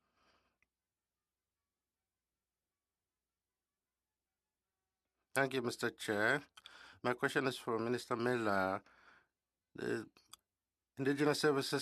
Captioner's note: speaking French